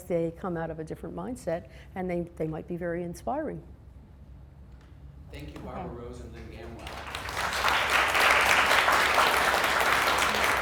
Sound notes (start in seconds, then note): 5.5 voiceover; 6.5 applause